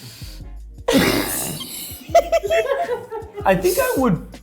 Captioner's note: laughing